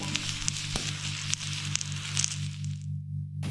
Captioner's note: radio music; food sizzling